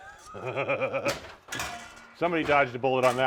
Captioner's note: laughs